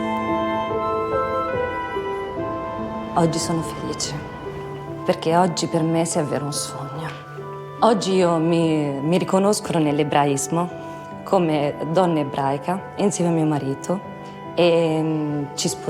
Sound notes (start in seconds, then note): 0.1 gentle music; 3.4 speaks in foreign language